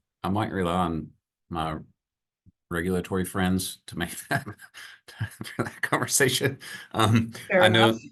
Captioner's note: chuckles